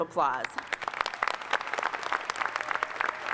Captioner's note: applause